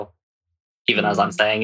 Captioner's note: laughing